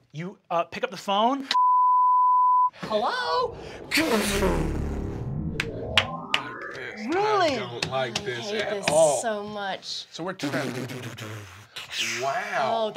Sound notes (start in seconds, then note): 1.5 beep; 4.0 vibrating